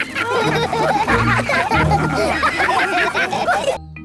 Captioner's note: all laugh